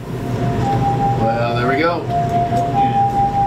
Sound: alarm ringing

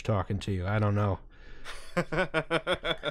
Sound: laughter

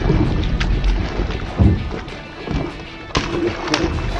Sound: objects thumping; water splashing

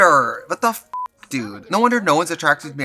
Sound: beep

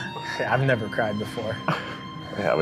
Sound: laughing

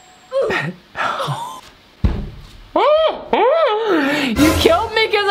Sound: laughs

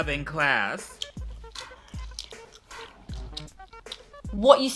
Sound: smacking gum

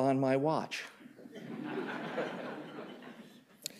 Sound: laughter

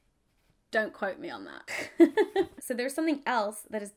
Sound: laughing

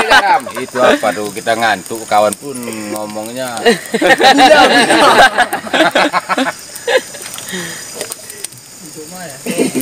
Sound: laughs

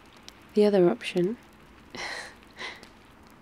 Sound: laughs

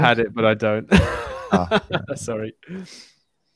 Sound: laughs

